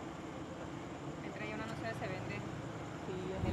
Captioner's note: female voice in the background